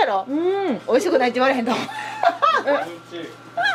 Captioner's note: laughs